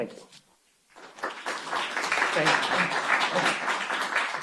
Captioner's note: applause